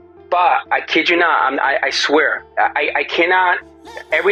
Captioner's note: on phone